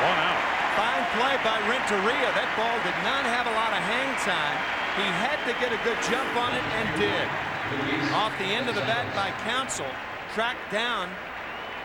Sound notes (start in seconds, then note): 5.0 cheers and applause